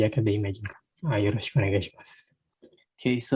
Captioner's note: spoken in Japanese